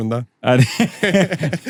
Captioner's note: laughs